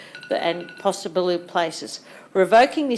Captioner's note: bell ringing